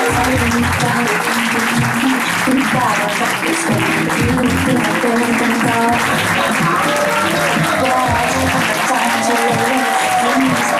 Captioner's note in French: applaudissements